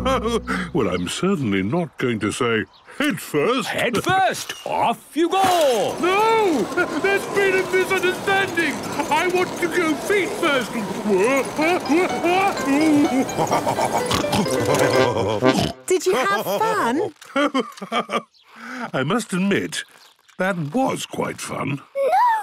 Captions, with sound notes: - Ho-ho! Well, I'm certainly not going to say head first! - Head first? Off you go! - No! There's been a misunderstanding! I want to go feet first! (shouting) (laughing, snorting) - Did you have fun? - Ho-ho! I must admit, that was quite fun!